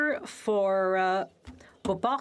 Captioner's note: speaking French